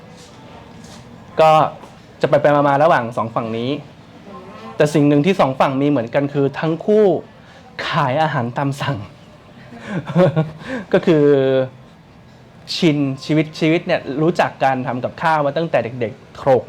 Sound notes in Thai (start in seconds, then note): 9.5 หัวเราะ